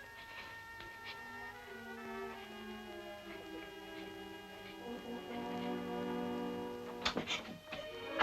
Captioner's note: suspenseful music; crying